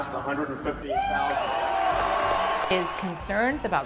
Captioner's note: cheering